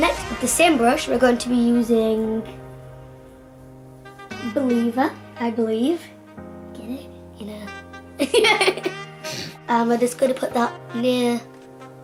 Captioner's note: laughs